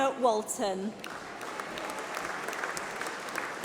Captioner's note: applause